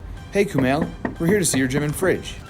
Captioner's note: door knock